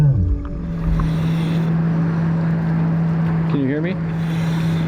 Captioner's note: gentle music continues; mouthpiece hissing; motor droning